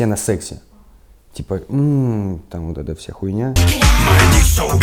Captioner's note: moans